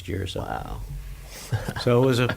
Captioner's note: laughs